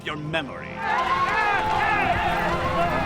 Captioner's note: people screaming